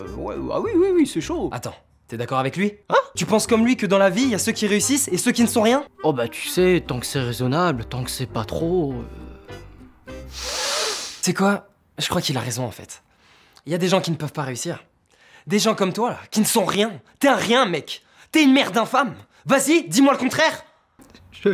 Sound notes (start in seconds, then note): 10.2 sniffing + shrug